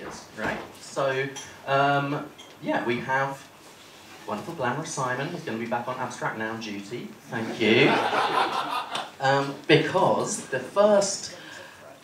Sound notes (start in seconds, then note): 7.7 laughter